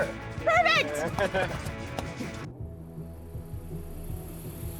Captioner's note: laughs